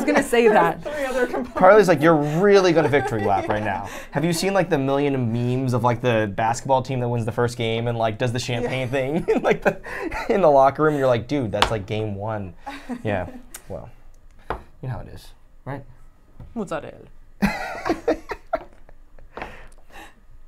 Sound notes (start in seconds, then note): 9.1 laughs; 12.6 laughs; 17.7 laughs